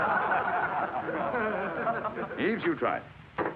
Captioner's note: class laughs